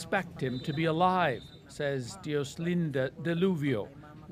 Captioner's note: speaking alternate language